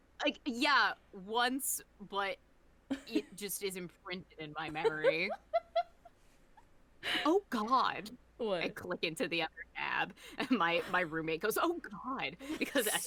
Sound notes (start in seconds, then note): 5.1 laughing harder